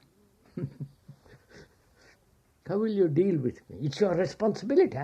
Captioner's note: laughs